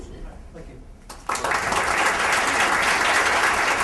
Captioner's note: applause